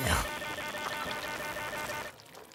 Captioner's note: squelching